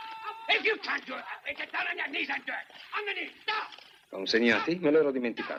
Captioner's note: man shouting